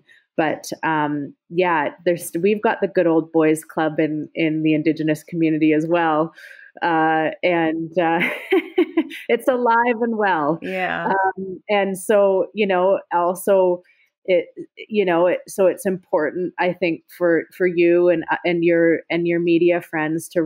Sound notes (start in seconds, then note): 7.8 laughs